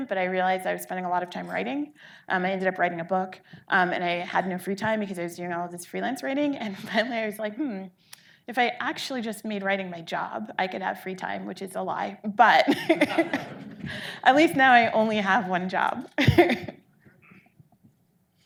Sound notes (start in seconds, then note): 12.8 audience laughing